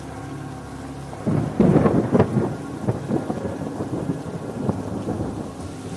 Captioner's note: thunder cracks